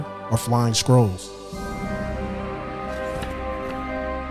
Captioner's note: pages turning